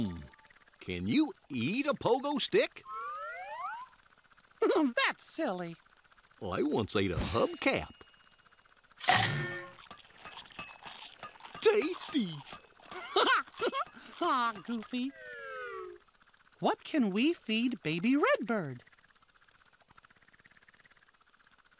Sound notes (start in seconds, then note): 4.6 chuckles; 9.0 chomp; 12.8 chuckles